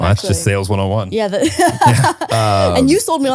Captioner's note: laughs